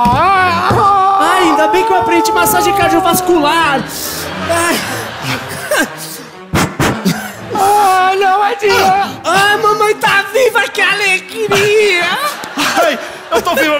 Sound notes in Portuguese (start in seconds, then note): 0.4 choro; 6.3 sopro